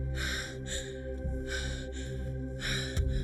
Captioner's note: Gina panting